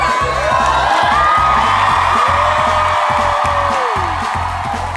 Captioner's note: crowd whoops and cheers